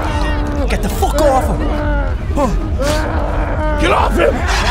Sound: Steven moaning in pain

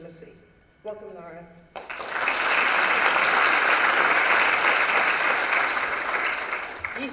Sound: applause

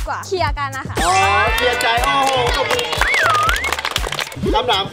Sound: applauding

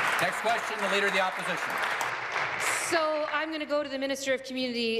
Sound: applause

